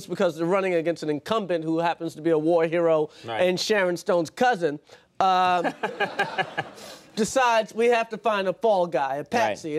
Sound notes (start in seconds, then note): 5.6 Conan and audience laughing